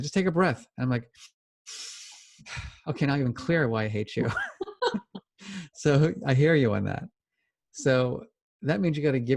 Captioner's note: breathes